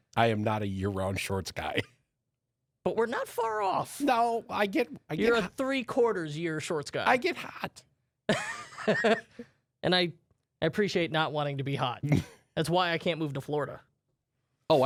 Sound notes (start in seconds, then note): 8.3 laughs